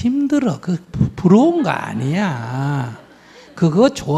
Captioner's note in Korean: 청중 웃음